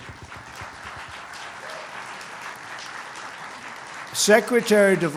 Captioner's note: applause